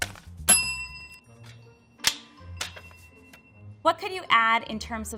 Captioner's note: bell dings